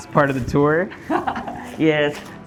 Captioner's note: laughs